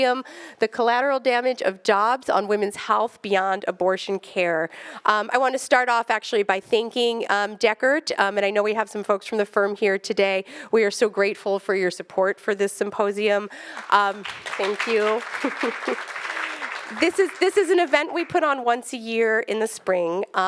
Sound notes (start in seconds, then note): 13.5 attendees clapping; 15.0 laughs